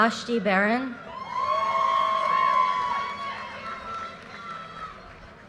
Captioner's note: audience cheers and applause